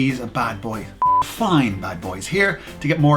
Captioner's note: beep